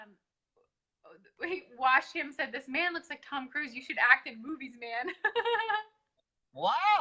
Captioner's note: laughs